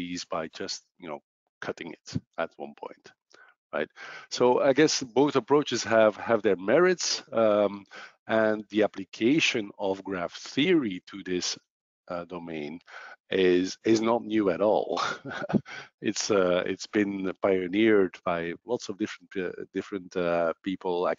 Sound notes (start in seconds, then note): 14.3 laughs